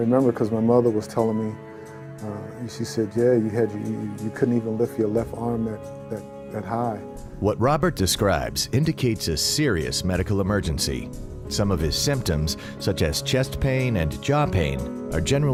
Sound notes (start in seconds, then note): 7.7 voiceover